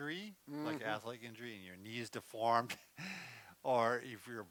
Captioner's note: chuckles